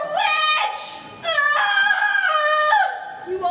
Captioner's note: scream